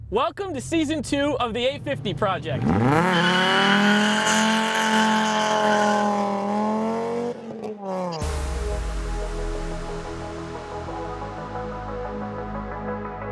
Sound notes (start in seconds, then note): 2.9 engine revving; 2.9 tires screeching; 8.2 soft music